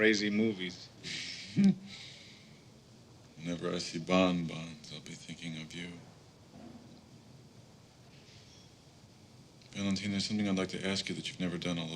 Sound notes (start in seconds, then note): 1.0 chuckIes; 1.0 chuckles